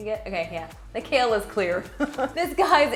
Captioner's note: laughs